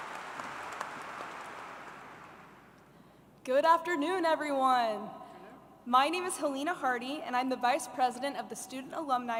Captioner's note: applause